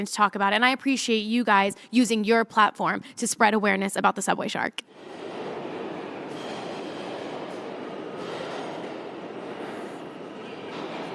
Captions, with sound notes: to talk about and I appreciate you guys using your platform to spread awareness about the subway shark. [subway rattling in the distance]